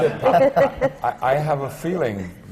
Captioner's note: laughter